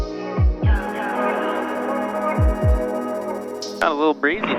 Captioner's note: phone rings